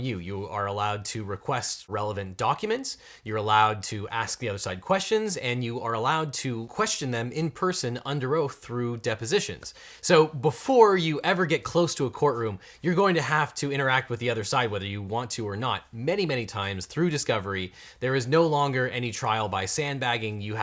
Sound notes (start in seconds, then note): none